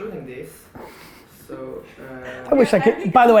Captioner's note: laughing